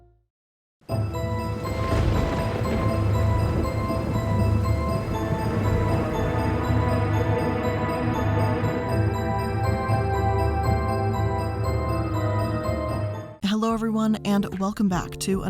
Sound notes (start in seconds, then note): 1.0 spooky music; 1.0 thunder rumbling